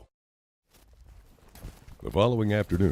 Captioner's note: footsteps crunching